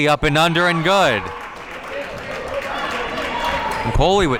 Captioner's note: audience applauding